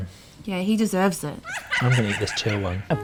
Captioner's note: maniacal laugh